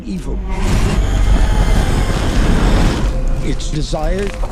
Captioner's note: flames roaring